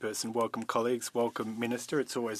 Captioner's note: speaking French